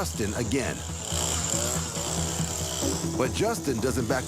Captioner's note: weed wacker whirring